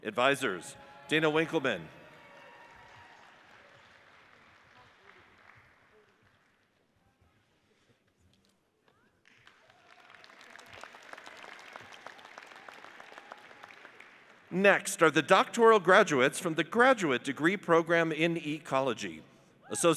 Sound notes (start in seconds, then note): 2.0 audience cheers and applauds; 9.2 audience applauds